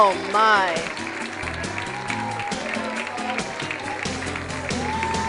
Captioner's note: cheers and applause